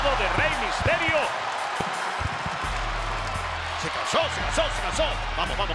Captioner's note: applause